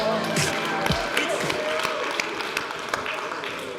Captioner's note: audience applauds